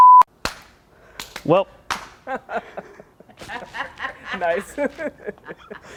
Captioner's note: laughs